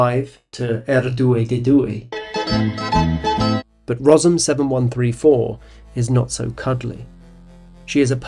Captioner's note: Italian